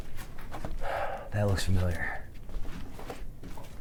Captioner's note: sighs